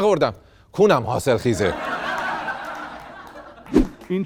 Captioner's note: laughter